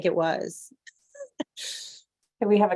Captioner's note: laughter